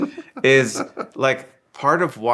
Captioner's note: laughing